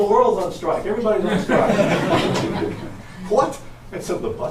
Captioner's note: audience laughs